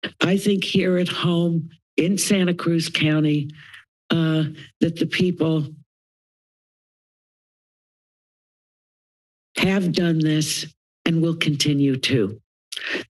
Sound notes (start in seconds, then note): 5.9 pause; 12.8 inhales